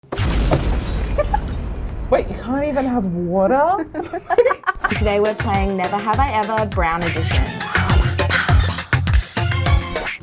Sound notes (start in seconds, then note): 0.1 explosion; 1.2 laughing; 3.8 laughing